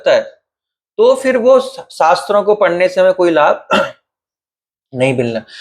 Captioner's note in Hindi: गला साफ़ करने की आवाज़